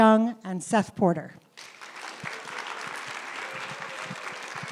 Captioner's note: applause